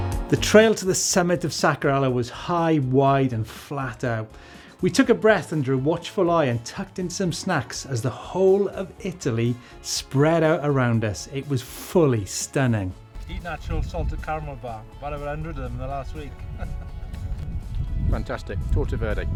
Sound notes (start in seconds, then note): 16.3 laughs